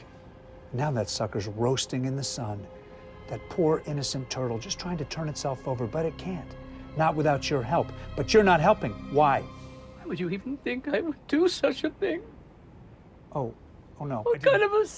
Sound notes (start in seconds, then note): 9.4 voice breaking